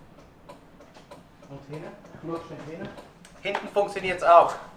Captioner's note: in Swiss German